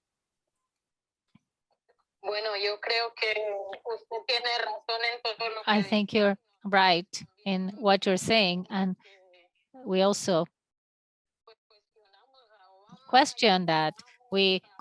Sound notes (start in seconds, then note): 3.1 speaking in Spanish